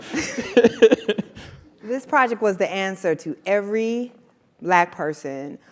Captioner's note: laugh